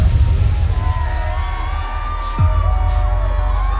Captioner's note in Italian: il pubblico esulta